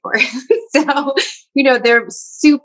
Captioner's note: laughs